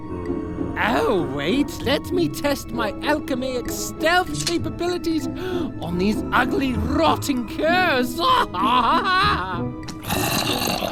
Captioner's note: laughs